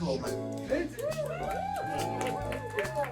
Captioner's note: applause